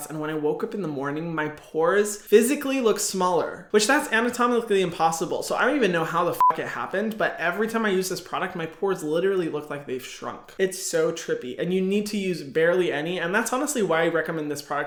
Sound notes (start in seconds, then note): 6.4 beep